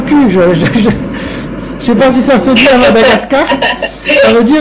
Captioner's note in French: Rire